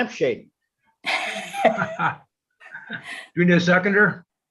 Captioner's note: laugh